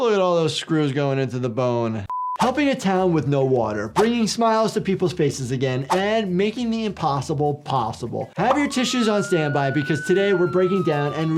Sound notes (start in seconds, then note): 8.4 siren blaring